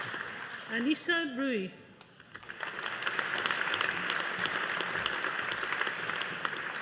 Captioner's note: audience applauding